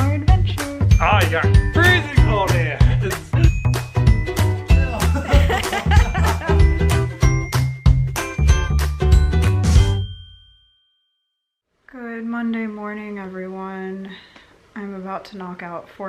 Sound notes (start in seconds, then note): 4.7 laughing